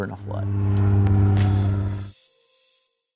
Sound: plane engine rumbling

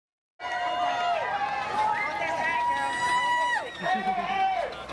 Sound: cheering

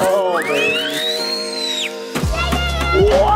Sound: screams

